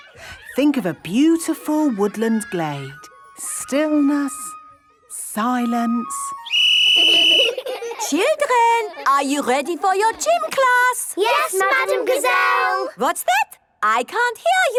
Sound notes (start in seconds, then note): 6.2 whistle blowing; 6.9 laughter